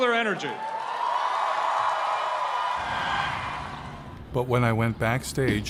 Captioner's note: kalabalık tezahürat ve çığlık atıyor